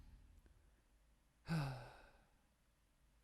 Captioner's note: sigh